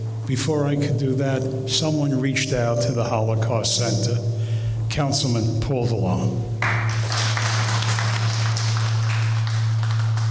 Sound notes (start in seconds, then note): 6.6 applause